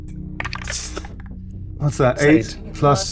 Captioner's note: die rattling; exhaling sharply